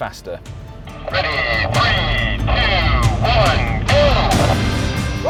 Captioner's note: man, through walkie talkie